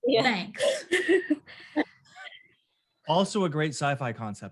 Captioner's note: all laughing